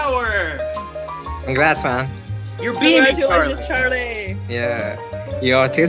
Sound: everyone Claps

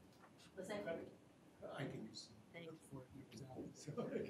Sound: speaking faintly

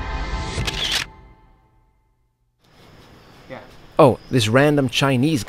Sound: camera shutter

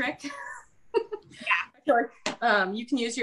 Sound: laughs

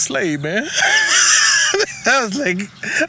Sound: laughs

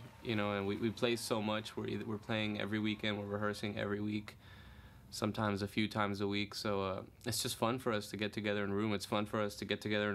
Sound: cheers and applause

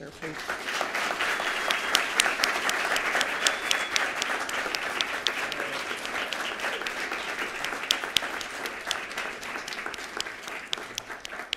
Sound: applause

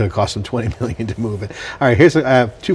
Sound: laughs

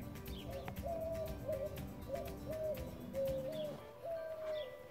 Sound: bird howls; upbeat music

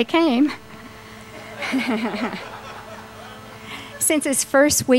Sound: laughter

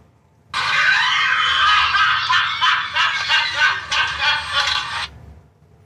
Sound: laughter

